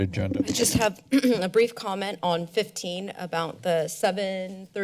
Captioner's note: clears throat